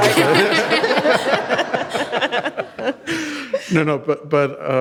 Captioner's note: audience laughs